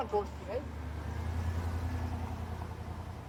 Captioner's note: vehicle driving